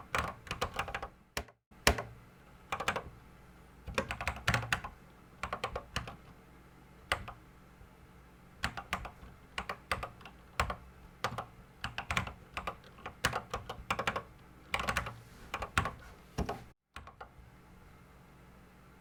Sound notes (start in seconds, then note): 1.4 typing on a Commodore 64 keyboard